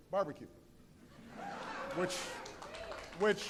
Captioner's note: laughter